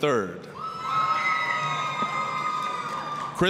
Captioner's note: applause, cheering